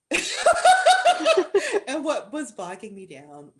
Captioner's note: laughter